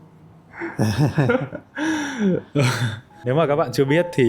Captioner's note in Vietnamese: tiếng cười